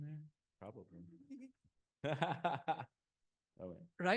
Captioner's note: laughing